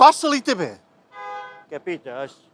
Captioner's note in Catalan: sona un clàxon de fons